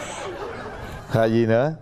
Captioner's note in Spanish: risas